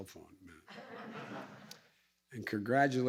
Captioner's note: laughter